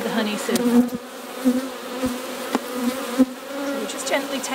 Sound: bees buzzing

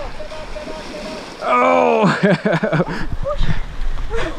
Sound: laughs

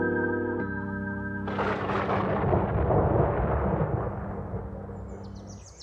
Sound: thunder rumbling

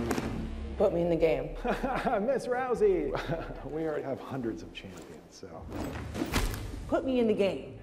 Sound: laughs

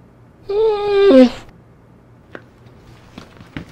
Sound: dog whimpering

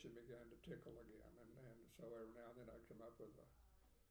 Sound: speaking faintly

